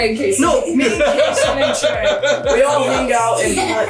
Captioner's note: laughing